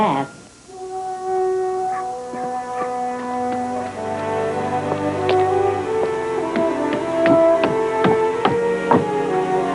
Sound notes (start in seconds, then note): 0.5 dog barking; 0.6 warm music; 5.5 footsteps